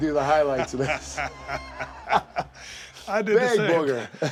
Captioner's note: laugh